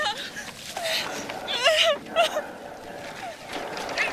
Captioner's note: Kate crying